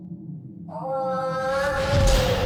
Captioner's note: in despair